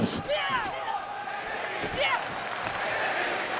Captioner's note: wrestlers shout